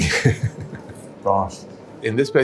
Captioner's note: laughs